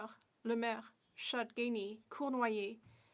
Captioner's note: speaking French